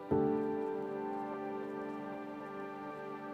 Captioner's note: none